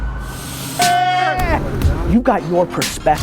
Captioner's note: upbeat music; yells